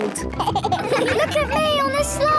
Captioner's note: giggles